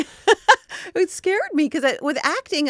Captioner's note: laughing